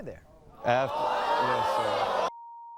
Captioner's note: audience screams